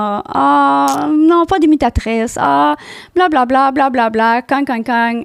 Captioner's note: in french